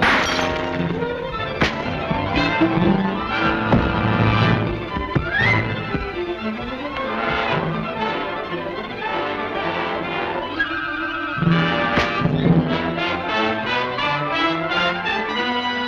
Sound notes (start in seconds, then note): 1.4 punching